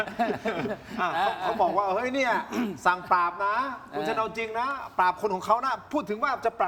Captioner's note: laughs; clears throat